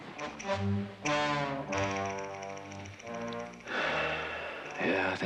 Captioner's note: sighs